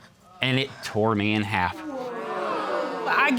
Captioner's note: audience gasps